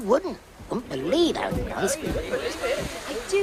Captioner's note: chatter